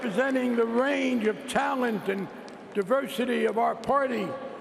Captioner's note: applause